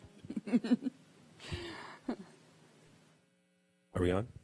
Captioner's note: laughing